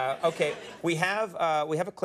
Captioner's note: audience laughing